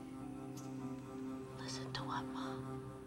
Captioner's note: whispers